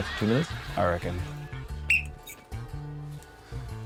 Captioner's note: blows whistle